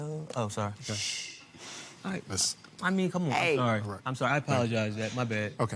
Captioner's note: shushing